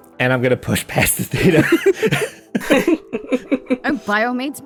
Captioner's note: laugh